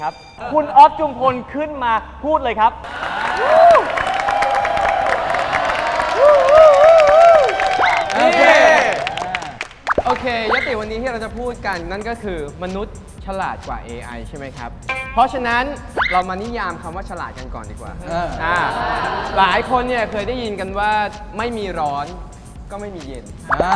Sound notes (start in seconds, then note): 7.7 lots of cheering for him